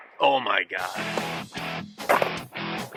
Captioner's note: gunshot